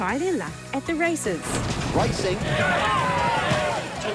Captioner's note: spectators cheer